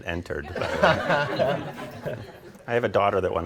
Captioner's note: audience laughing